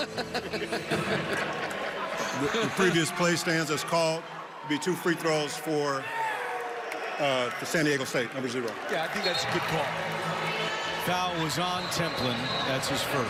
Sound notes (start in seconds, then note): 0.0 laughter